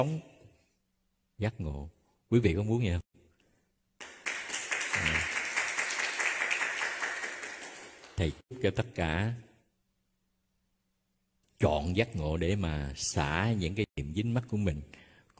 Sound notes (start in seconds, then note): 3.9 clap